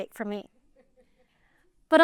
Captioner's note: laughter